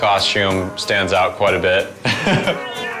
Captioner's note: chuckles